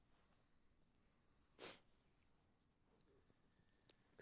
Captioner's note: sniffling